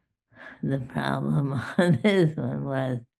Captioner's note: laughing